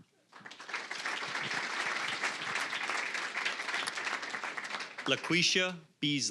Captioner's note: applause